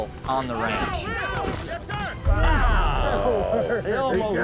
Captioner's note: all exclaiming; chattering